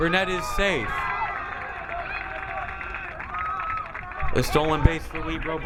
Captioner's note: crowd applauding